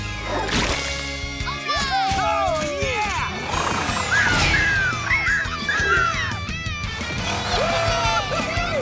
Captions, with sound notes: -All right! -Oh yeah! [squeaking] -Yeah! -Woo hoo hoo!